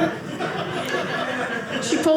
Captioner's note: audience laughing